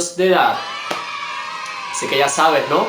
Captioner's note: happy noises